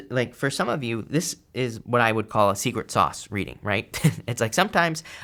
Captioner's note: chuckles